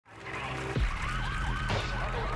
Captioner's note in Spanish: aplausos